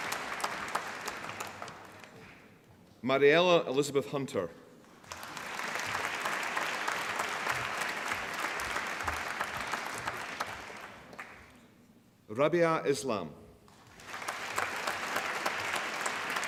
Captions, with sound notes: Marielle Elizabeth Hunter (APPLAUSE) Rabia Islam (APPLAUSE)